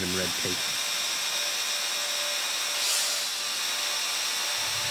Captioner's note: drone blades whirring